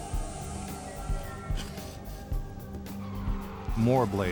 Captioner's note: blades scrapping